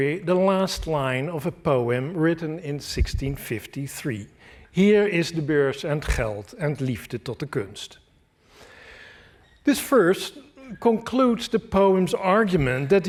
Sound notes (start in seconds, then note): 4.8 speaking dutch